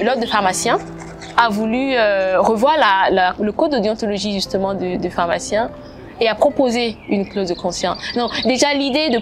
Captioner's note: French